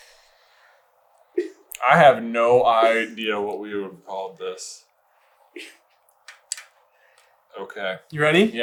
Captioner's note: is still letting out occasional small giggles